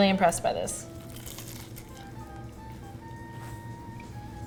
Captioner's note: crunch